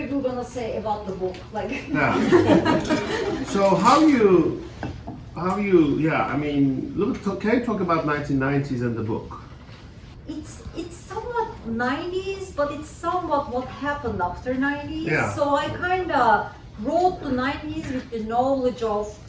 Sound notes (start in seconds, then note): 1.9 laughter